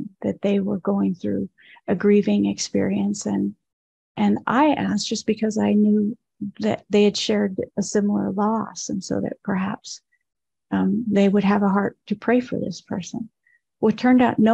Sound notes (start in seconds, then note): none